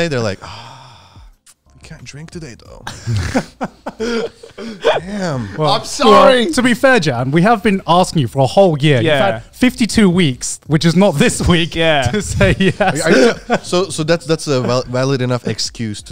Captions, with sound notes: they're like, oh, I can't drink today though. (all laughing) - I'm sorry. - To be fair, Jan, we have been asking you for a whole year, 52 weeks, which is not this week to say yes. - So that's a valid enough excuse